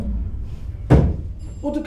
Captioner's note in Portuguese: thud